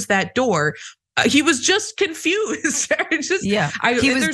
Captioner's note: laugh